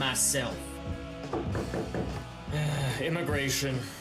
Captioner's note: knocking; groaning